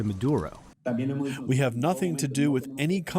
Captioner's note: through translator